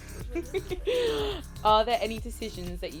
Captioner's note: giggles